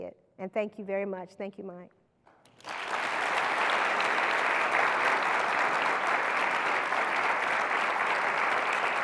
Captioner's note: applause